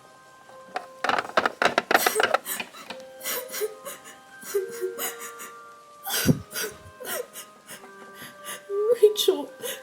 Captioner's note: sobbing